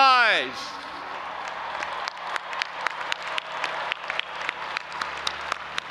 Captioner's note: audience applauding and cheering